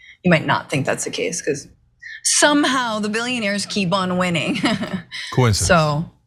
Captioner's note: laugh